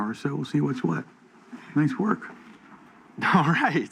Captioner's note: none